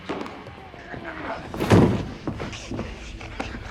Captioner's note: gasping